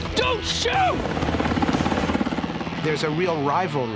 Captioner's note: helicopter whirring